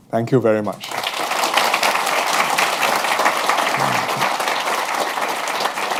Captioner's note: applause